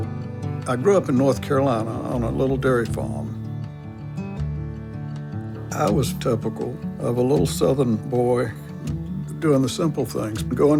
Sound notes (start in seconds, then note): none